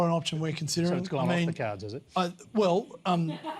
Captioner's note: laughter